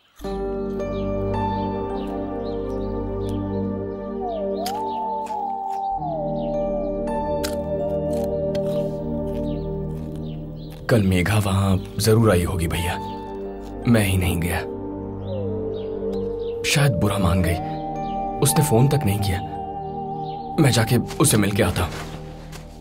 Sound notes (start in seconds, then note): 0.3 soft music playing; 7.2 munching